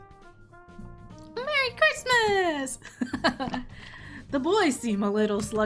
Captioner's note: laughs